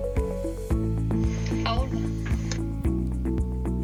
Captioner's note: AR Book Speaking Spanish